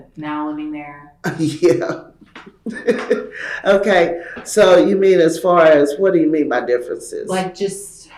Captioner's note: laughs